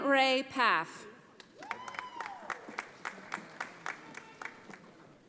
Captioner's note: audience applauding